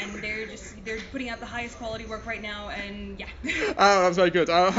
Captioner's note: laughs; laughs